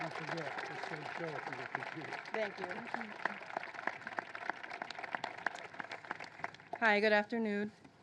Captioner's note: applause